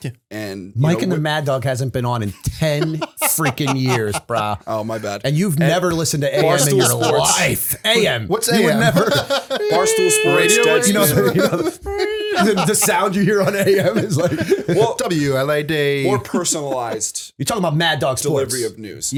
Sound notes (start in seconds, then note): 4.4 chuckle; 8.6 laughter